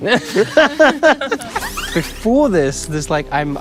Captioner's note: everyone laughs